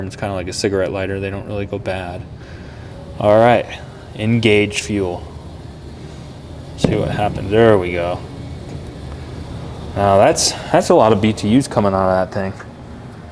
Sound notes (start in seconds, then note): 6.0 gas swooshing